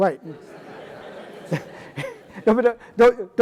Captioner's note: audience laughing